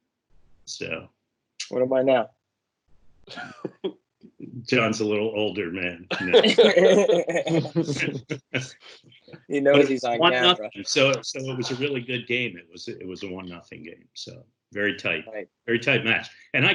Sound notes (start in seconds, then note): 3.3 laughs; 6.1 everyone laughs